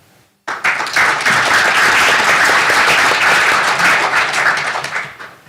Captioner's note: applause